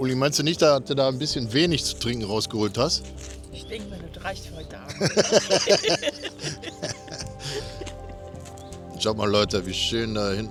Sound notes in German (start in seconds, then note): 4.8 gelächter